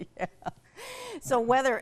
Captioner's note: laughs